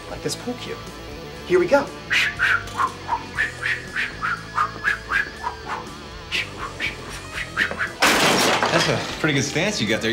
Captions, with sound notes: like this pool cue. Here we go. [WHOOSHING NOISES] That's a pretty good stance you got there.